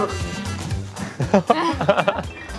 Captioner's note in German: Lachen